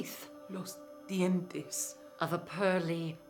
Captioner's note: speaking in foreign language